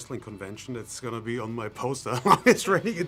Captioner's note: laughs